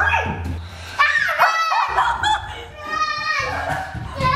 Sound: screaming; laughing

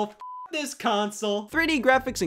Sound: beep

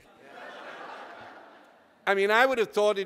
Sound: audience laughter

